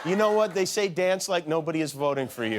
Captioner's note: laughter